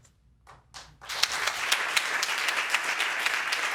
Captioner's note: audience applauding